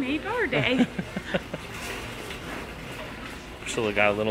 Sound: laughs

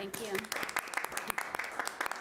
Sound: applauding

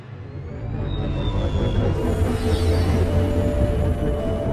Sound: engine whirs

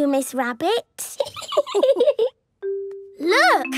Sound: laughing

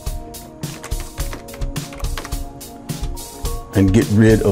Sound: keyboard clicking

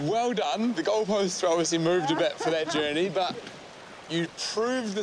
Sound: laughs

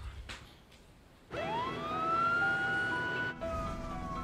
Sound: ambulance siren

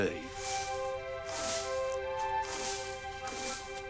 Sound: leaves swishing

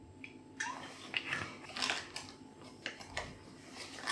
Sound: glug sploosh

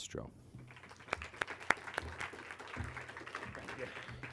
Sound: clapping

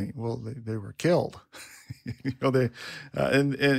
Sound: laughs

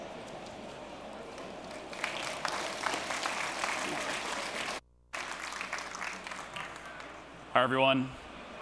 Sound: applause

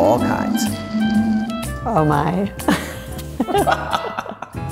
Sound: laughing

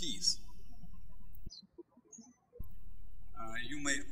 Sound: birds chirping

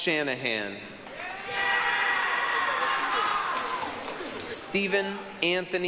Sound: applause, cheering

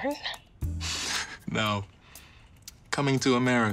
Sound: chuckles

